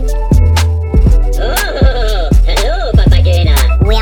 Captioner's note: Kevin is speaking in Minionese